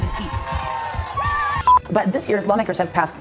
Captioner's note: crowd cheering